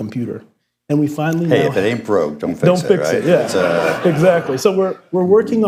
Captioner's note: laughter